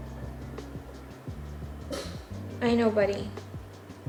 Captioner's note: muffled bark from Pudge